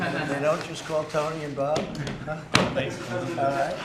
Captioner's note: laughter